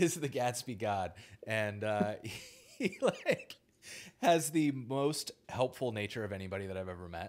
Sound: laughs

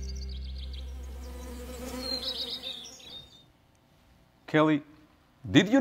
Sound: bees buzz

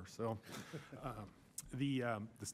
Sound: laughter

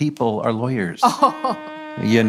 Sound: laughing

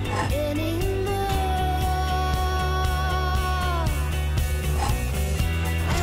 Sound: scooter scraping against concrete

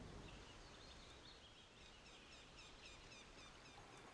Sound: birds chirping

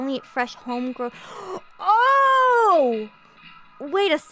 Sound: le GASP

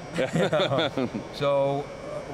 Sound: laughter

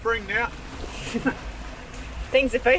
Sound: laughs

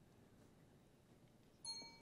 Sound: timer dings

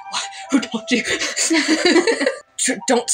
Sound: both Laugh

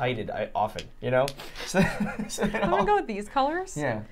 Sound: laughing

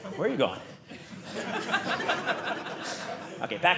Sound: audience laughing

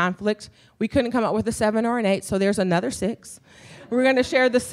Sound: laughter

